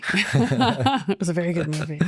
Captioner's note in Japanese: 二人笑い